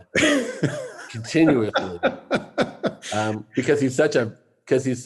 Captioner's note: laughs